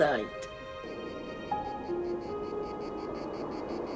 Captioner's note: wind howls